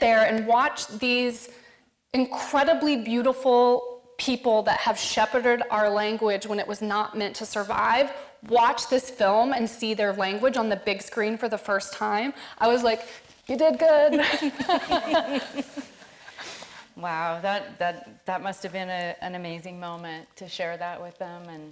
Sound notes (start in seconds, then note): 14.2 all laughing